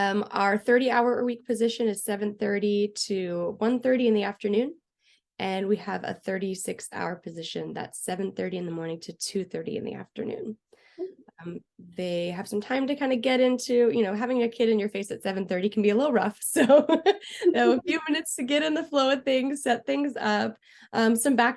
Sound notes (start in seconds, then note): 16.6 laughter